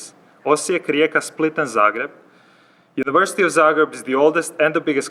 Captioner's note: speaks Croatian